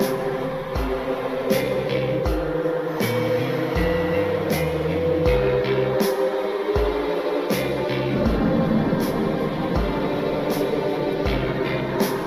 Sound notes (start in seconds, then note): none